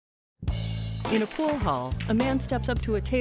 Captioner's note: billiard balls clacking; upbeat music